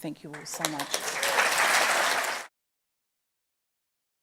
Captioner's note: audience applauds